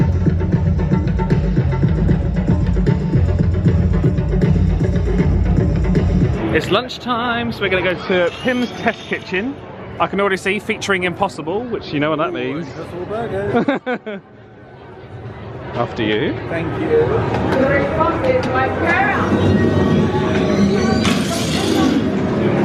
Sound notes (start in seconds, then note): 13.4 laughs; 18.1 people chattering